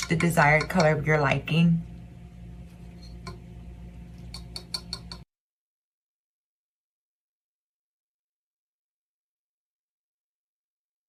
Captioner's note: tapping